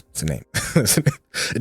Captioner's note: laughs